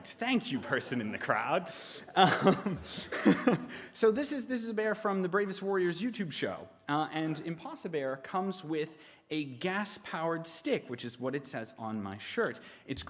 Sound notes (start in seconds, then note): 2.1 laughing